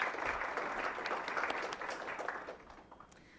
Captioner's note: applause